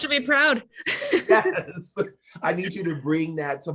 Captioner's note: laughing